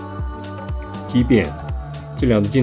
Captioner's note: distortion